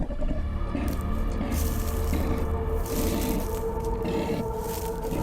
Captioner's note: footsteps pattering